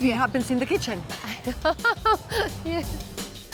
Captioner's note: laughs